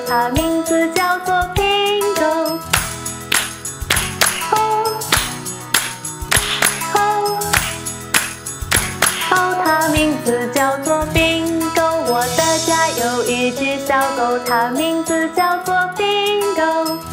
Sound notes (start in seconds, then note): 2.4 clap clap